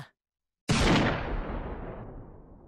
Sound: gunshot

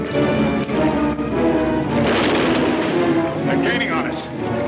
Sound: gun firing

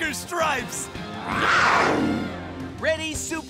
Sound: growling

